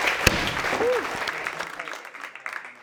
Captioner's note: audience applauding